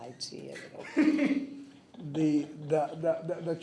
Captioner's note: people chuckle